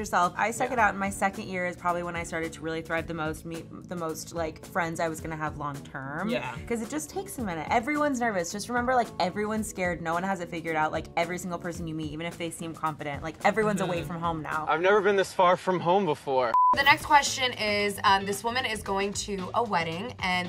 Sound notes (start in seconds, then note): 16.5 beep